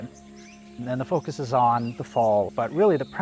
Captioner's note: birds chirping